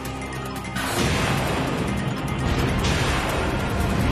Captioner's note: engine blast sound